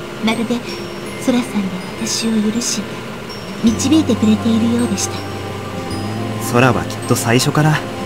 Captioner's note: rain